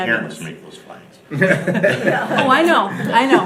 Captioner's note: laughing